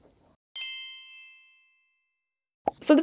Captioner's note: gentle chime jingling